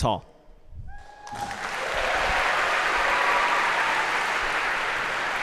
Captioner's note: تشویق، تشویق